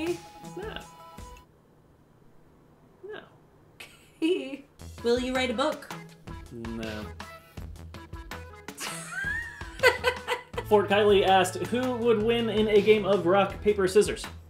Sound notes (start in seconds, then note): 8.8 laughter